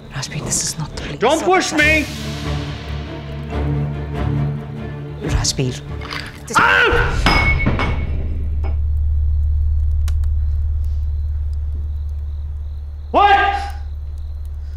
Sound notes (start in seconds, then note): 7.0 Glass falling